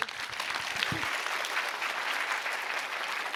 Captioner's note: applause